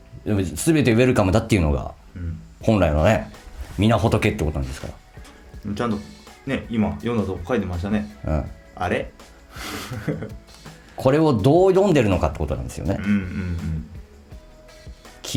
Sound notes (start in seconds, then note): 9.6 laughs